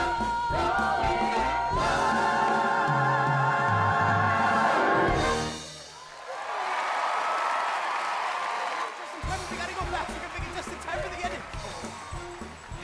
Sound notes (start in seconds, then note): 4.7 audience cheering